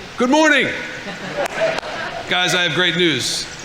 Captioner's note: audience laughing; audience applauding